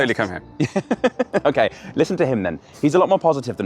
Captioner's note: laughs